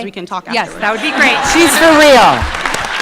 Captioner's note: audience laughing